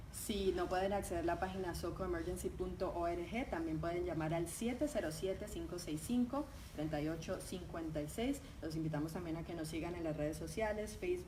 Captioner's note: talking in Spanish